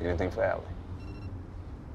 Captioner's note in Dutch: telefoon piept